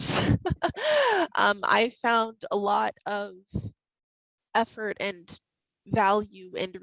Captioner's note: laughing